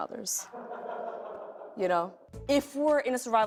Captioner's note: laughter